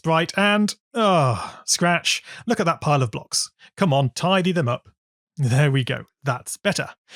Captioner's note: sigh